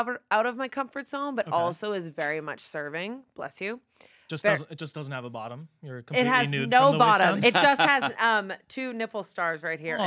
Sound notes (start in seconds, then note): 4.4 person sneezes offscreen